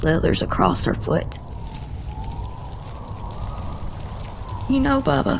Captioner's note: slithering